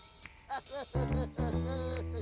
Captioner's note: giggling